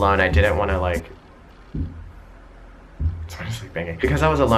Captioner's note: thudding